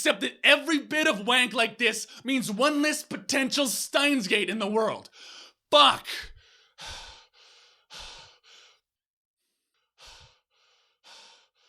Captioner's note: deep breath